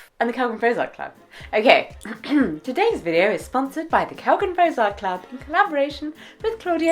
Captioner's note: clears throat